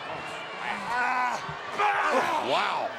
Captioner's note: Ambrose screams